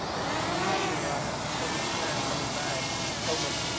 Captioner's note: drone sounds